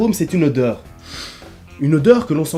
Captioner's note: sniffs the fruit